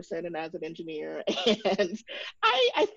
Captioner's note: chuckles